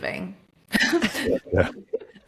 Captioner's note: laughing